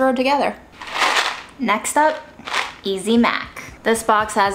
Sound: pasta rattling

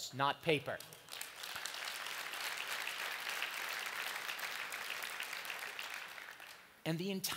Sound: applause

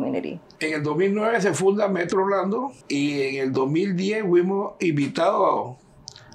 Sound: speaking in Spanish

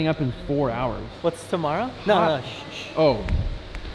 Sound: shushes

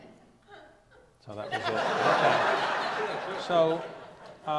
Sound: audience laughs

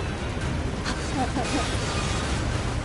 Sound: laughs

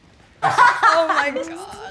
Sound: laughing

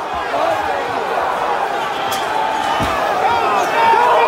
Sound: crowd yelling

